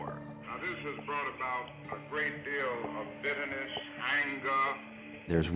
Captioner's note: radio